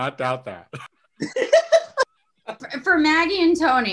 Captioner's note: laughing